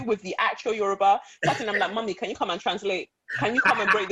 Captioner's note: laughter